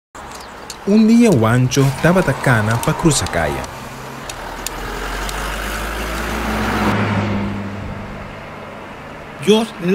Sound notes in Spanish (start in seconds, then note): 3.8 zonido de carros pasando i el bastón blanco golpeando la pared